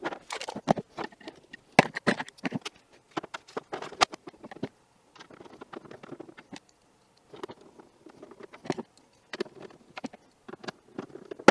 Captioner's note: mechanical sounds